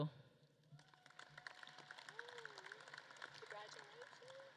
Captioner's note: audience claps